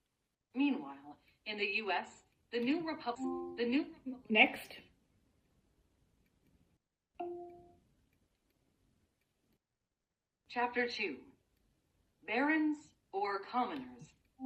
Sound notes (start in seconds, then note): 3.1 device chimes; 7.2 device chimes